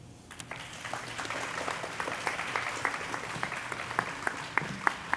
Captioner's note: audience applauding